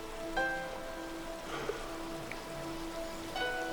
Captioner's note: sighs